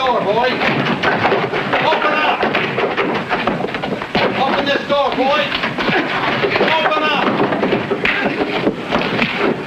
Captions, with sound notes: - Let's go, boys. Open up! (door knocks) (fist pounding) Open up this door, boys! (fist smacking)